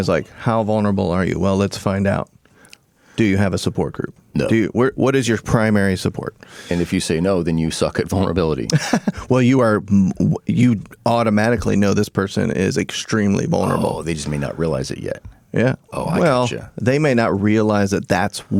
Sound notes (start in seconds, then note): 8.7 laughing